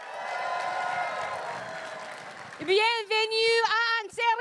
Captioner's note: crowd cheering and applauding